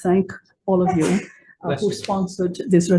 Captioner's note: person sneezes